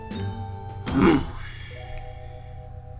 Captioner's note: angry grunt